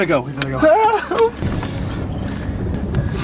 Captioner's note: crying